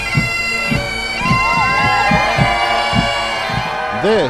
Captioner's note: cheering